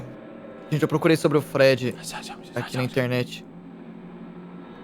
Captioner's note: whispers